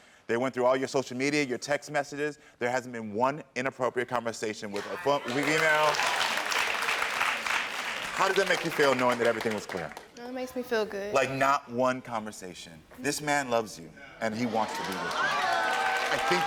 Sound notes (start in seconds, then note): 4.7 audience applaud